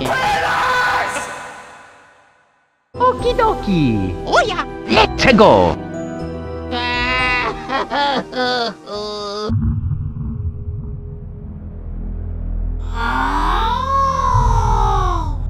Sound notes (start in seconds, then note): 6.7 crying